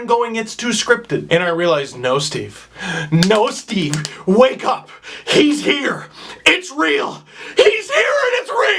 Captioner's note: slapping face